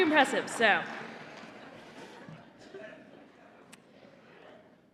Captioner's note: laughter